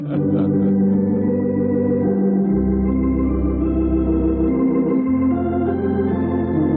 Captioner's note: laughter